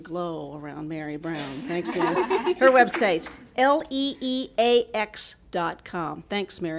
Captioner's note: audience laughing